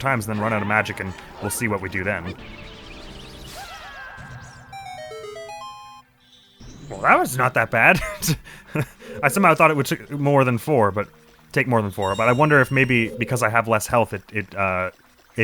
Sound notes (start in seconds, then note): 7.9 laughing